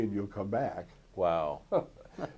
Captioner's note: laughter